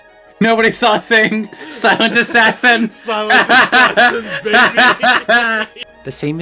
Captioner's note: laughter